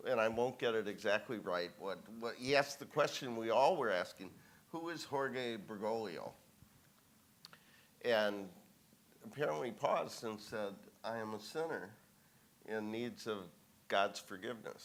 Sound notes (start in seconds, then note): none